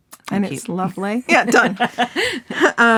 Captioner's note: laughing